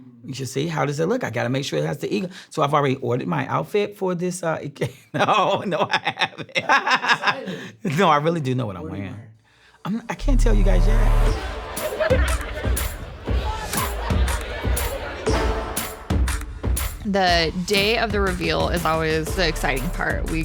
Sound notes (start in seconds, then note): 6.6 laughing; 11.6 upbeat music